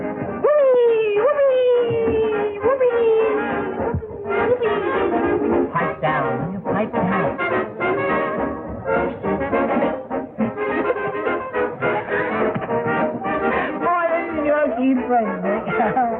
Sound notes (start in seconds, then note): 11.7 laugh